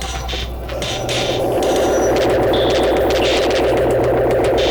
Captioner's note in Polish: Nagłe, silne, oscylujące dudnienie